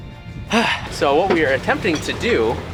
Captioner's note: sighs loudly